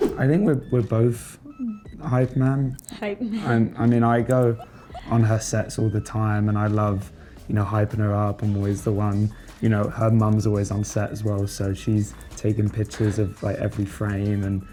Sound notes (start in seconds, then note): 4.2 laughs